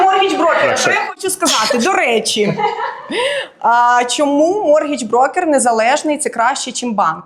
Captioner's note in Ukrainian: сміх; сміх